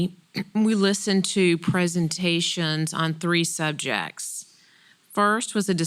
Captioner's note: cough